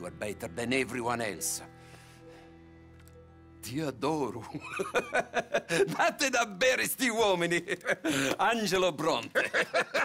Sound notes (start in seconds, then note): 4.3 in Italian; 4.5 laughs; 6.6 in Italian to guard